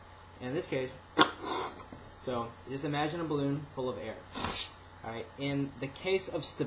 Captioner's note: blows up balloon